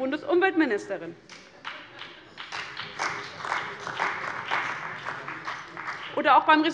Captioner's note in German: Beifall bei Abgeordneten des BÜNDNISSES 90/DIE GRÜNEN und der CDU